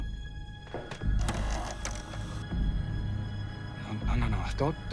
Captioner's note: robot whirring